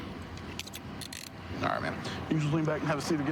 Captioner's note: handcuff closing